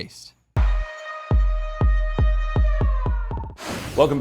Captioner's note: siren